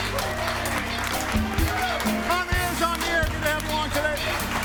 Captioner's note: audience applauding; mellow big band music